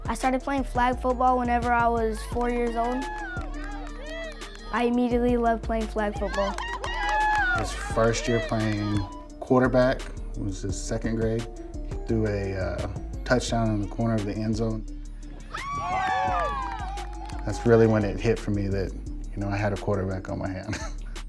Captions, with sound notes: I started playing flag football whenever I was four years old. I immediately loved playing flag football. - His first year of playing quarterback was his second grade. Threw a touchdown on the corner of the end zone. (cheering) That's really when it hit for me that, you know, I had a quarterback on my hands.